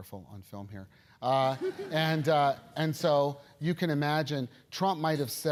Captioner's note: laugh